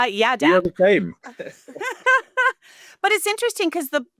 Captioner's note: laughing